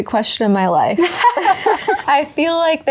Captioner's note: both laughing